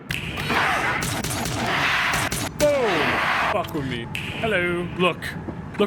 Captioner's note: gun firing